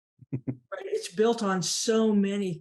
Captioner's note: laughing